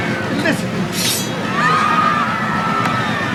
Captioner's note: shouting